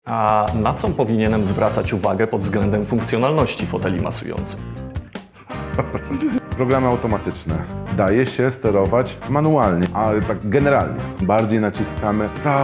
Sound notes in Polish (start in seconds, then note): 5.4 śmiech